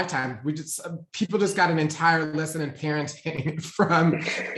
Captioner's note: laughs